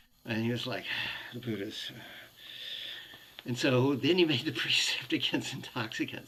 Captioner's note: slurring